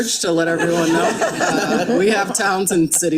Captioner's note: attendees laughing